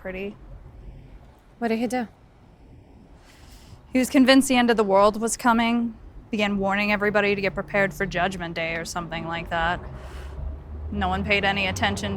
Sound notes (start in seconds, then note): 9.8 exhales